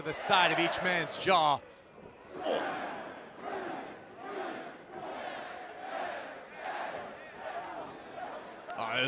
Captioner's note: crowd cheering